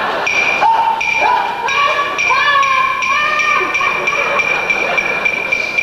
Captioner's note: overexcited cheering trying to be formal